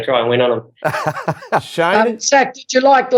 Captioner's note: laughs